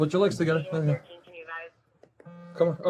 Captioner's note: radio chatter